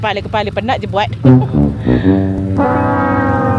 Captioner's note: laugh